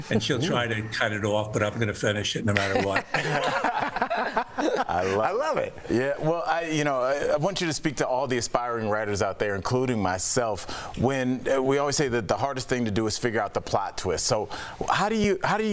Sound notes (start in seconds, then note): 5.7 laughter